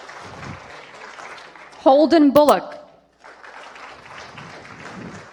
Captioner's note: applause